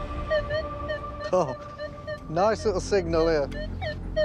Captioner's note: metal detector beeps